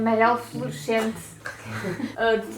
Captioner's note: laughs